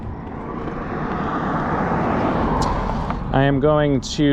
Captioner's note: car engine revs